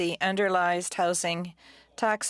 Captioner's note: speaking FRENCH